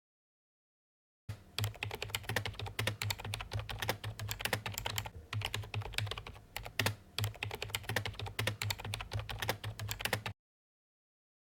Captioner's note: typing